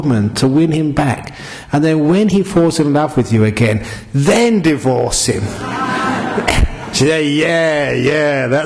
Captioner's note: laughter